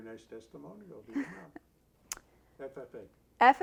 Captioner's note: laughs